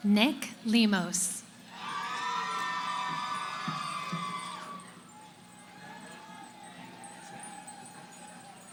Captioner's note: cheering